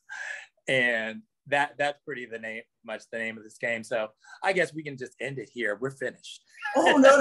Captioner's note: laughs